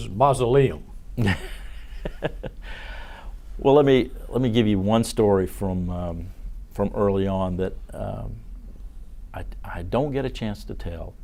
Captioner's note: laughter